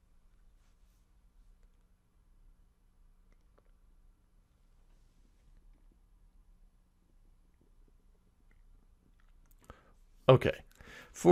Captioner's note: pause